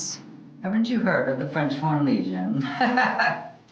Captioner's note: laughing